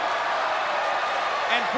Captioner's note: spectators cheering